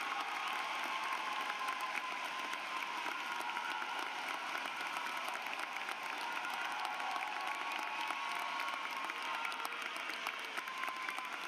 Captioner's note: applause